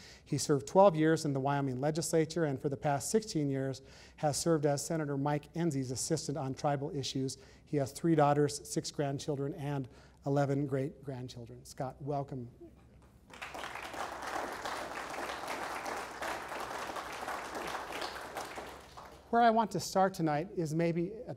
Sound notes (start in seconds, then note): 13.2 audience applause